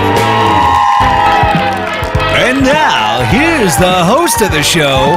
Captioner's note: cheering